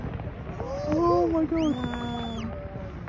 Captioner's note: in English